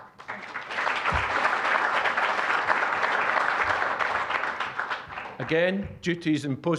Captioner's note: applause